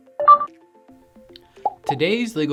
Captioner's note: dots beeping